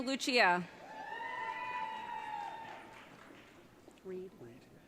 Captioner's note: audience cheering